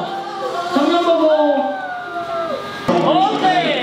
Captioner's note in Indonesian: Hoot